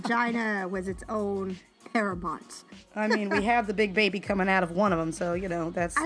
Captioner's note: laughing